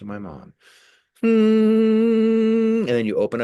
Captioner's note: humming